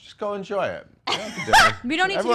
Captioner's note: laughing